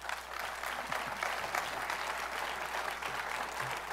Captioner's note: applause